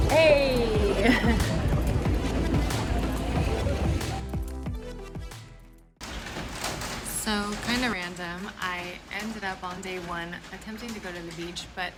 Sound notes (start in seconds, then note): 1.2 speaking in foreign language